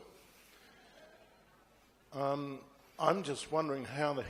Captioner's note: laughter